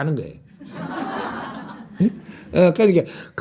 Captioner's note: audience Laughter